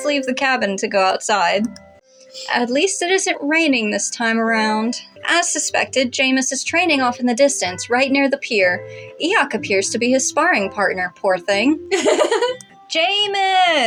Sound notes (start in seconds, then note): 11.9 laugh